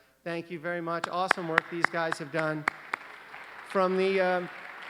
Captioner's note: applause